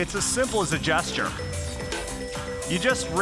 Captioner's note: phone ringing